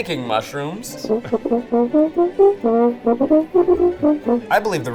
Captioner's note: horn trumpeting